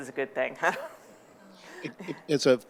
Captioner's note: chuckling